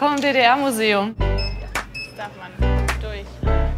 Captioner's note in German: Piepsen